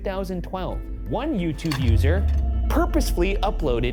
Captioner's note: slide projector clicks